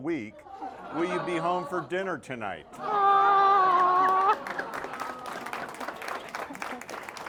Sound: applause

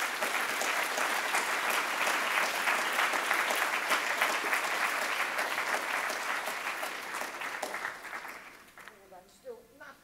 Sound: applause

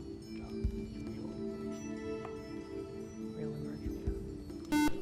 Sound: whispering

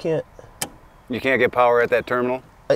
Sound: starter clicks

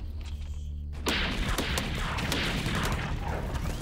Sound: gunshots

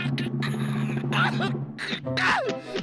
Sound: crying and gasping

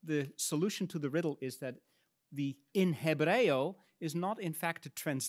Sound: speaks in Latin

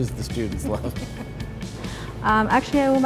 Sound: laughing

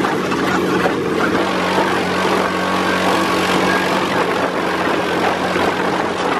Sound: engine revving

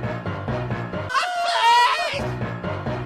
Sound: sinister music; more screaming

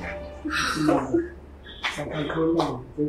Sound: Kate whimpering

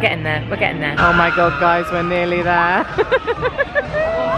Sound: laughing

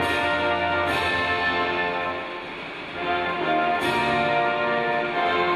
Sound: none

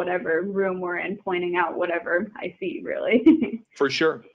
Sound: chuckling

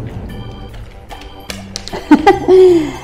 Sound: laughs

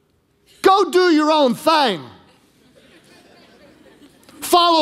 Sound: congregation laughing

